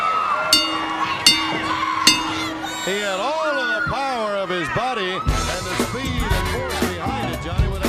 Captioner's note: crowd cheering; bell ringing